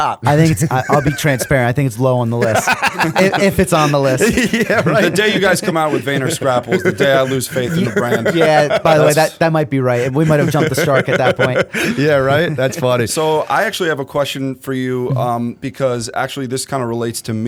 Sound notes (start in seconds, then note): 2.6 laughter; 5.3 chuckle